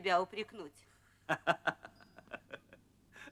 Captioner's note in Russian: смеется